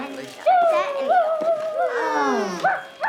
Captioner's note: family chattering